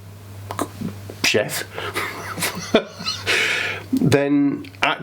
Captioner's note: laughing